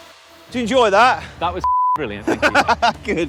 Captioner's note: intense upbeat music continues; beep; laughs